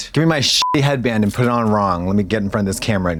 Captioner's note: beep